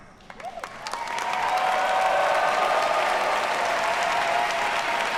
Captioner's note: audience cheers and applauds